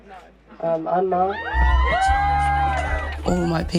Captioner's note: crowd cheers